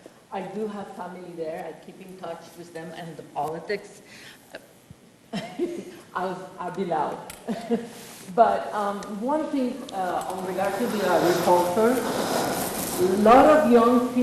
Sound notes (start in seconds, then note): 5.3 laughs; 11.7 speaks faintly